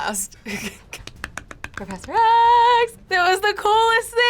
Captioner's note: laughs; claps